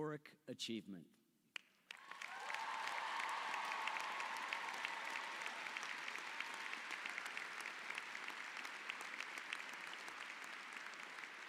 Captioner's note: applause